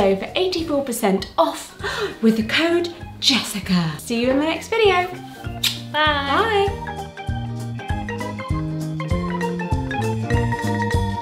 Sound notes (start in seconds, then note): 5.5 smacks lips; 6.8 jaunty music